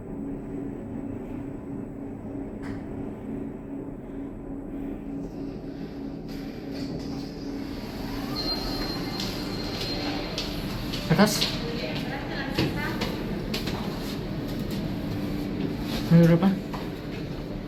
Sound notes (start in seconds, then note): 8.2 door Open Motion sound & Chime Ringing